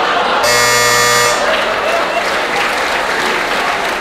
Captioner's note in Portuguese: campainha